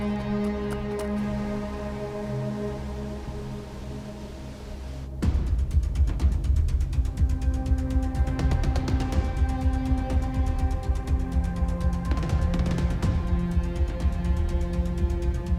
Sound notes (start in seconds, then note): 1.7 river babbling; 5.4 suspenseful music